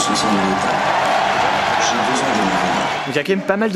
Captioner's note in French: Applaudissements